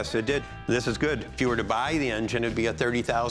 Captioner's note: none